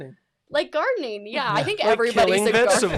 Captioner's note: laughs